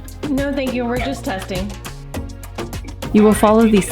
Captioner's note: monitoring center audio